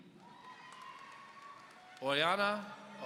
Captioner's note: audience cheering